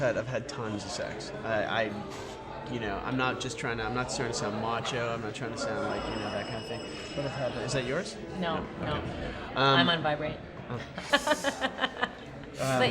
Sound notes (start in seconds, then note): 5.6 phone rings